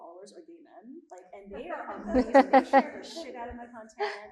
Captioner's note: all laughing